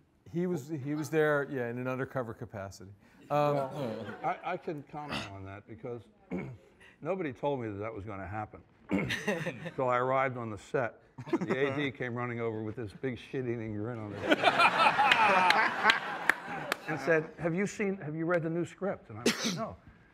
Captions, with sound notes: He was there, yeah, in an undercover capacity. I can comment on that because nobody told me that was gonna happen, till I arrived on the set, and the AD came running over with this big shit-eating grin on his... (ALL LAUGHING) And said, "Have you read the new script?" And I was like, "No."